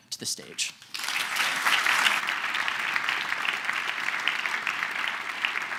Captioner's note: applause